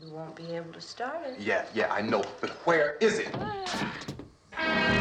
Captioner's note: groaning